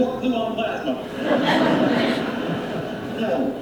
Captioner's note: studio audience laughing